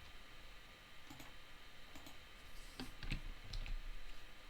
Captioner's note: mouse clicking